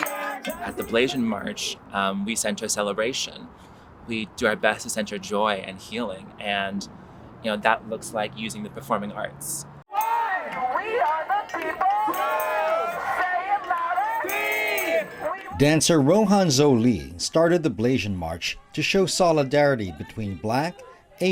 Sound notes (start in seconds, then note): 9.9 chanting